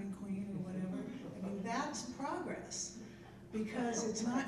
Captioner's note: people chuckling